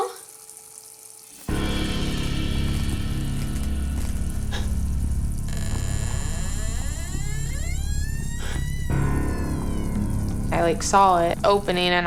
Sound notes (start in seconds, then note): 0.8 ominous music; 2.0 electricity buzzes; 5.0 door creaks